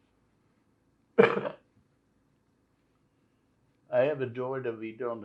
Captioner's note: coughing